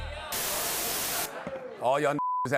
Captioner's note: static